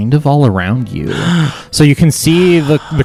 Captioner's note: gasps and sighs